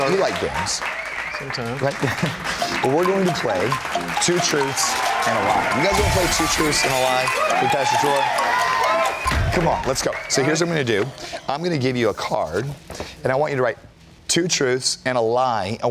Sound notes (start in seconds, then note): 2.4 laughs; 7.2 crashing noise; 9.1 cheers